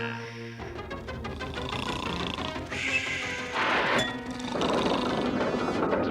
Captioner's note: snores